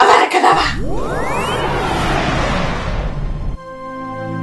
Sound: Avada Kadava spell sounds

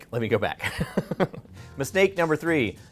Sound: laughing

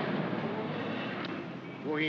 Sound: aircraft rumbles overhead; cab accelerates away; in German

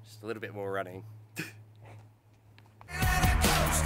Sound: chuckles; rock music playing

